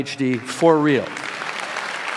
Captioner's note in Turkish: alkışlar